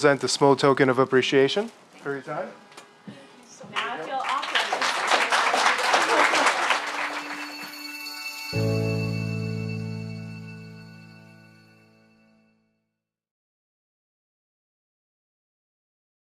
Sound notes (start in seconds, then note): 3.7 applause